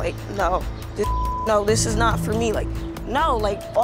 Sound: beep

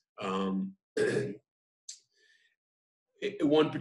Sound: coughs

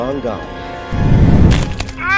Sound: bone cracks

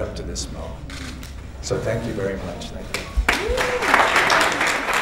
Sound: applause

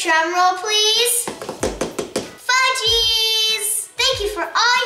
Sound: table drumming

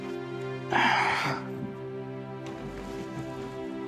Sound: sighs

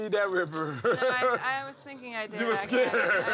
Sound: laugh

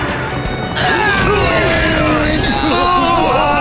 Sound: screams from helicopters

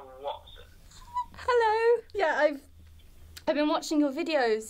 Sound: squeals

